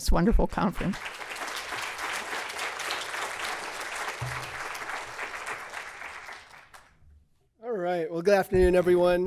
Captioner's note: applause